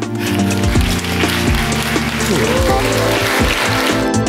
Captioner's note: applause